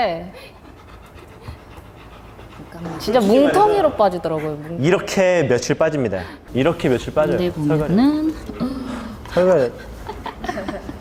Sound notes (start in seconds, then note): 9.6 laughing